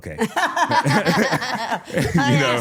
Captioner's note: all laughing